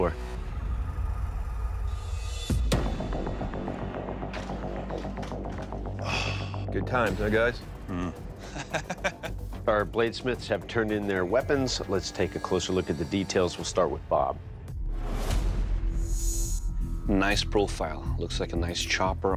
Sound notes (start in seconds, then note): 5.9 sighs; 8.4 laughs